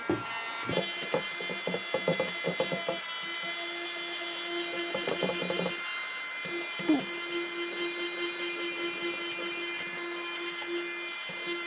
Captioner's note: sped up vacumming